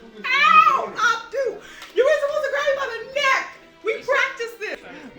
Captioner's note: laughing